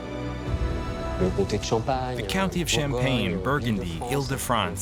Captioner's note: speaking French